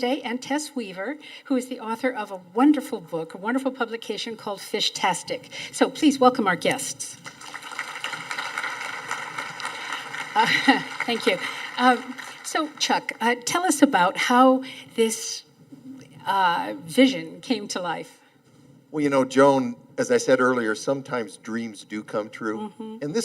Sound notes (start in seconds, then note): 7.2 audience applauding